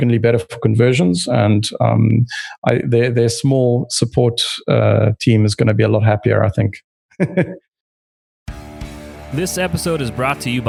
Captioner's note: laughs